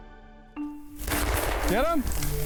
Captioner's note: gunshots ring out